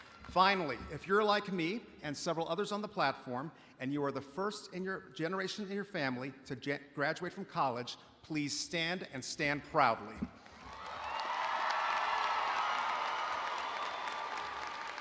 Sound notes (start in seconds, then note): 10.4 audience applauding